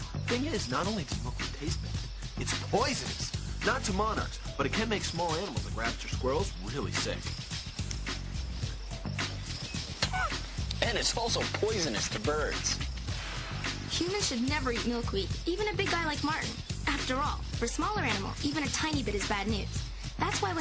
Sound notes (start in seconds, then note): 10.0 spits